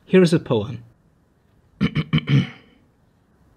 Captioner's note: clears throat